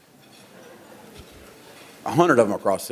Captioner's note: audience laughs